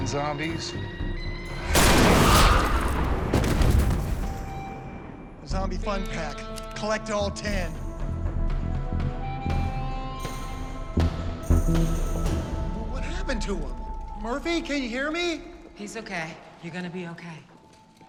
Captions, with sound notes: - The weirdest freaking zombies. [gunshot] [thud] - A zombie fun pack-- collect all 10. What happened to him? Murphy, can you hear me? - He's OK. You're gonna be OK.